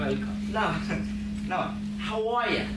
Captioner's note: laughs